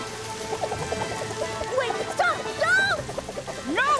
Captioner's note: whirl! whirl!